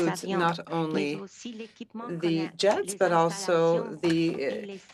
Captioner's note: speaking French